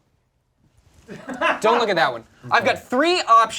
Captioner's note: background laughter